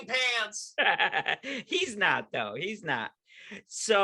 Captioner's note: laughing